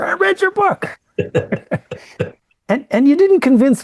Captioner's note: laughing